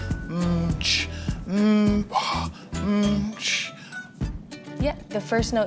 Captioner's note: vocalising and making percussive noises